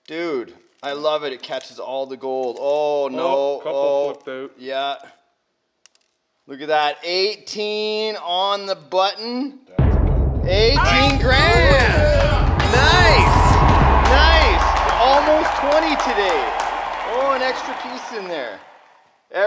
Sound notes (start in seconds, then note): 9.6 dramatic drum roll music; 10.8 audience applause; 14.0 crew members clap